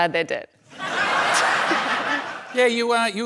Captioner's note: laughter